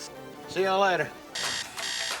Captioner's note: alarm sound